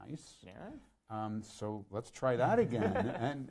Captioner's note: laughs